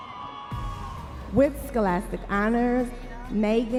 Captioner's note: audience members cheering